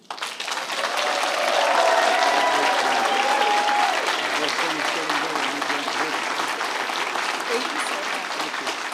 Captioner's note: applause